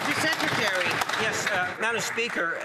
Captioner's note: some Applause